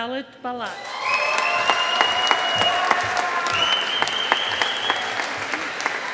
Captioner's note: audience applauding